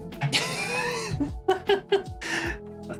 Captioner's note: laughing